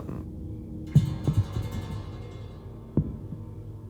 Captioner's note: thumping